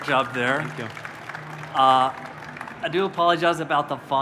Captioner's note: applause